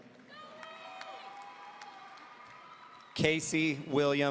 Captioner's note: audience cheering